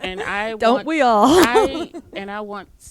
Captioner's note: laughs